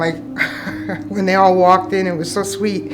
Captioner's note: chuckling